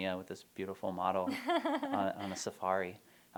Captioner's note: laughter